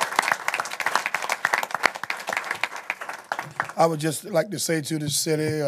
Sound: applause

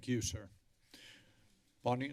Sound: inhales

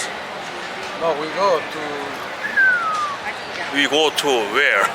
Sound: whistling

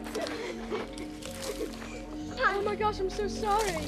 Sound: giggles

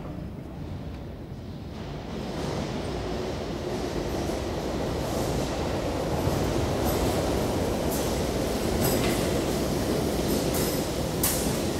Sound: tube train pulling into a station

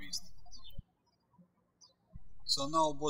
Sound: birds chirping

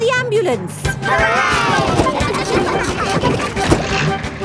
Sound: giggling

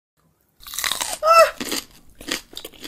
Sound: Crunch

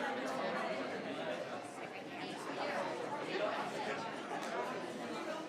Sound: people chattering continues

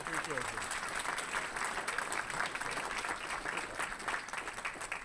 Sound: audience applauding

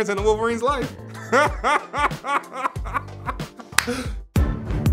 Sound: laughing; upbeat music

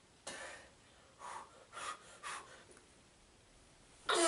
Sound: pump-up breaths

